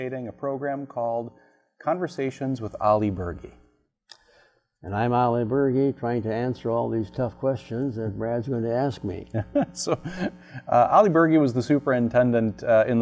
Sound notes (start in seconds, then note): 9.3 laughs